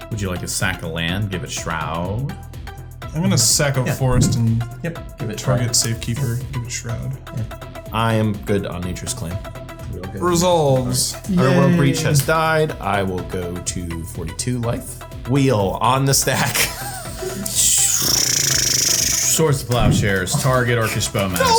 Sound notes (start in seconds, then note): 16.4 laughs; 16.8 blows raspberry